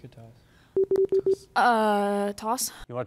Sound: device beeps

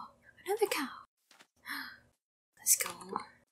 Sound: gasp

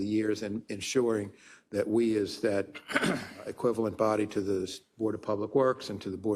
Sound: cough

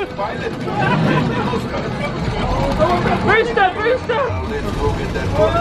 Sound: laughs

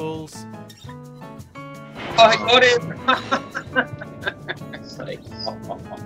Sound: laughter

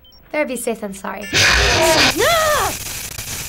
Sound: abrupt shrieking; growls in frustration

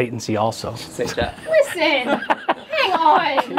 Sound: laughing; all laughing

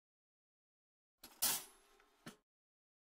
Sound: sound of toaster

